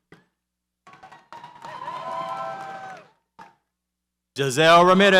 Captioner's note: audience cheers